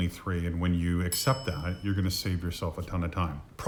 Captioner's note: bell dinging